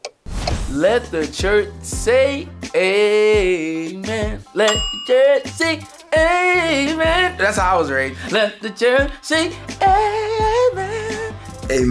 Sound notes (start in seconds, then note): 4.6 bell sound